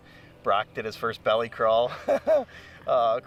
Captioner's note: laughs